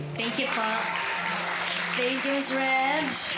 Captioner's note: audience applauds